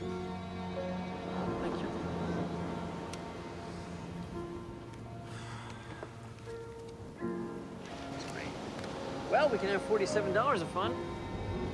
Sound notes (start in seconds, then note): 5.2 sighs